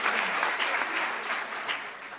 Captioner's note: applause